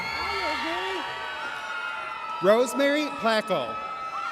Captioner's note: audience cheers